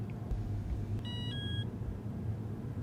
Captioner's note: door chime